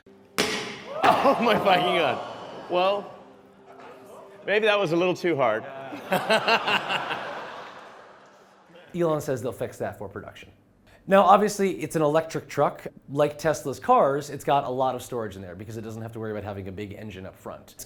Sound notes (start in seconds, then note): 5.7 laughing